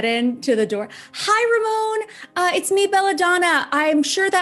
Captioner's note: fake vapid voice